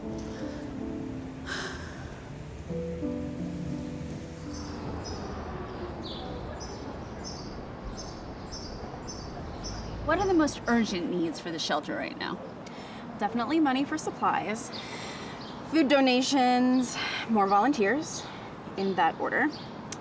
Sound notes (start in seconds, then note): 0.2 soft piano music; 5.3 birds chirping